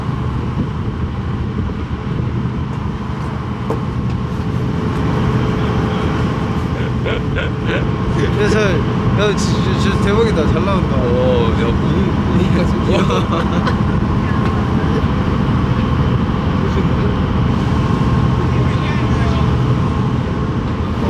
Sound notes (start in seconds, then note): 6.6 laughing; 12.7 laughing